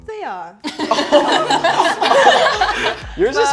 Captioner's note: all laughing